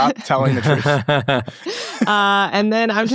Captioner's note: laughing